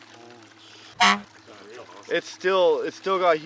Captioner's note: horn honking